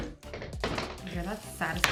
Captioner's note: hammer clattering; frame creaking; cardboard fizzing